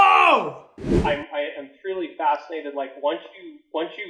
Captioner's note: wind whooshing